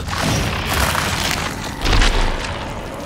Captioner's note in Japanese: うなる声